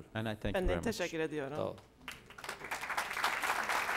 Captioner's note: non-english speech; applause